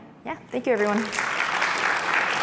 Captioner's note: applause